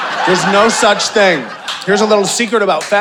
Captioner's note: audience laughing